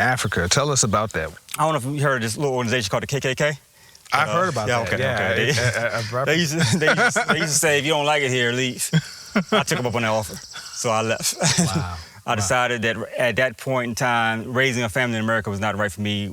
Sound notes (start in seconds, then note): 5.6 laughs